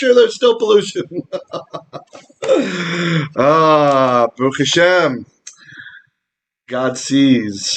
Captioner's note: laughter; Hebrew